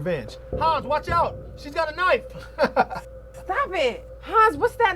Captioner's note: chuckles